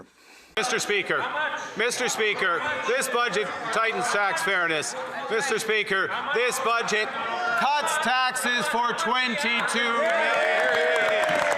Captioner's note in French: voix de l'interprète